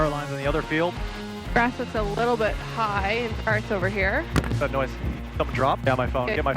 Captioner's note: thud